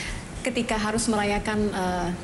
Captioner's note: non-english speech